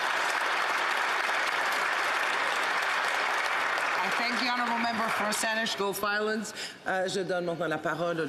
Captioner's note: applause